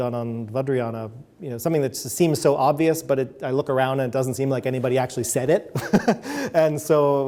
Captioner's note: chuckles